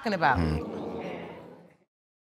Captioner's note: audience exclaiming